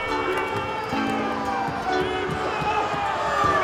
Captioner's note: crowd booing